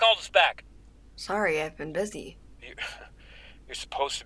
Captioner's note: chuckles